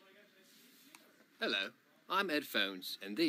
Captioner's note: in a bad accent